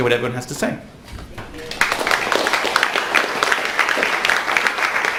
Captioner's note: crowd applauds